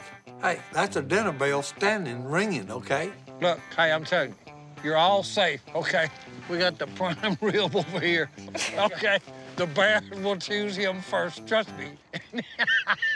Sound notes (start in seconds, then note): 7.0 chuckling